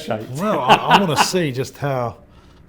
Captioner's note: laughs